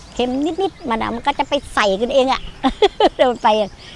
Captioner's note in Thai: เสียงหัวเราะ